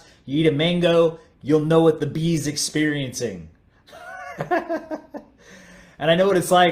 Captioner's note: laughs